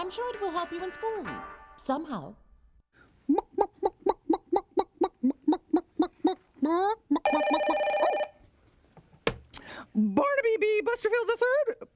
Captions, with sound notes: I'M SURE IT WILL HELP YOU IN SCHOOL... SOMEHOW. ( clucking ) ( telephone rings ) BARNABY B. BUSTERFIELD III PUBLIC LIBRARY